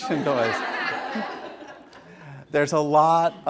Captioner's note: laughter